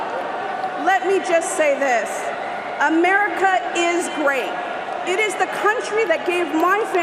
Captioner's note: cheers and applause